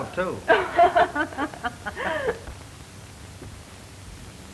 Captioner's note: ladies laughing